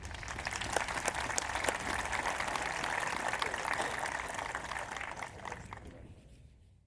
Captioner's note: applause